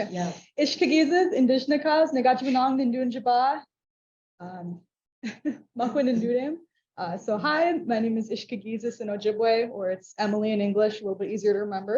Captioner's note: speaking English